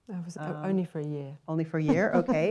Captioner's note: laughter